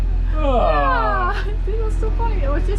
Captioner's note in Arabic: تضحك; يتنهد